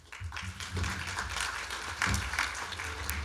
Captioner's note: clapping